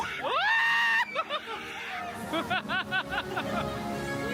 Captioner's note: screams